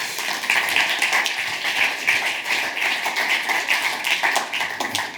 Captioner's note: audience applauds